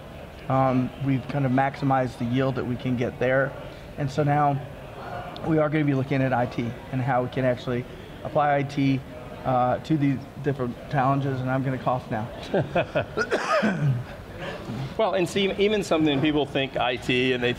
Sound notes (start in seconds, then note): 12.4 laughs; 13.0 coughs